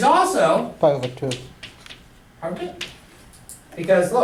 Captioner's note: voiceover